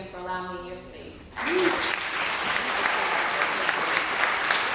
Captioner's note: applause